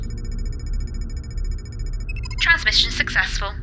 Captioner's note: computer beeps